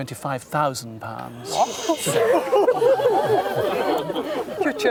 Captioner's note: crowd gasps and laughs